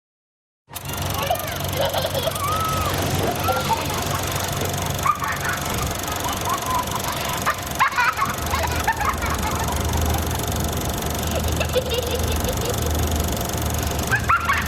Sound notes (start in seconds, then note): 1.0 film reel running, child giggling